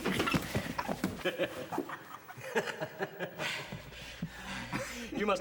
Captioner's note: both laughing